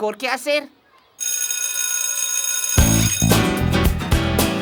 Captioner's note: ringing